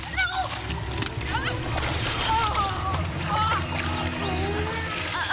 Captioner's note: electricity zapping; Maggie moaning